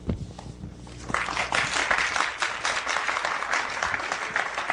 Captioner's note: applause